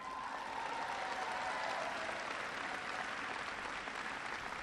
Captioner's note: applause